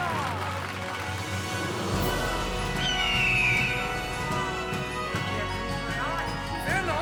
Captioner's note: crowd gasps with astonishment as the melody plays